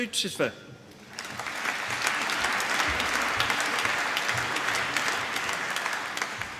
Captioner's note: applause